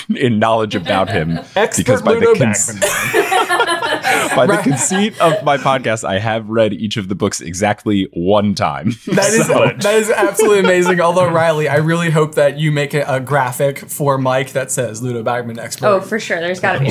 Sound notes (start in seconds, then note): 1.8 laughing; 3.1 everyone laughing; 8.8 laughing